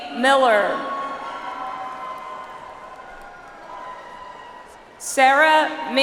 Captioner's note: audience applauds